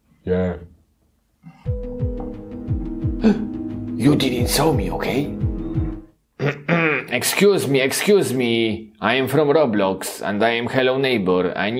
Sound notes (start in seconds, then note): 1.6 suspenseful music; 3.2 gasping; 6.4 clearing throat